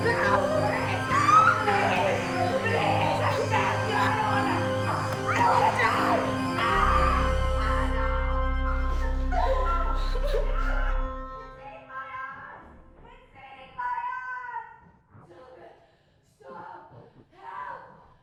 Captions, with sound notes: No. Please, please. (all crying) (dramatic music) They ate my arms, they ate my arms. No, stop, no.